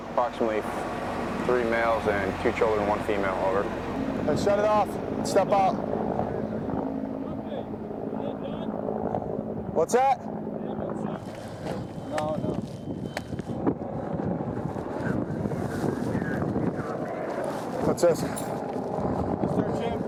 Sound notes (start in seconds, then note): 0.4 marine on radio; 12.1 sound of helicopter rotors and radio